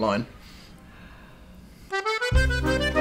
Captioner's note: sniffs